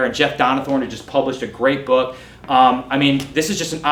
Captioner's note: none